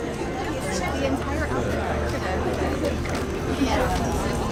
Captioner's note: people chattering